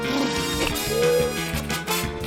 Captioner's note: blubbers lips; gasps; keys clack